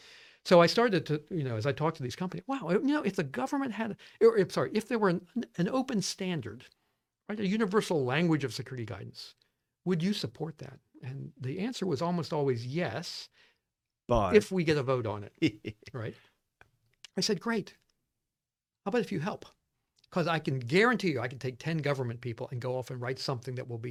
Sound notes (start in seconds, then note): 15.4 laughs